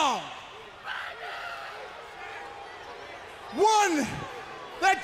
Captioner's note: crowd chatter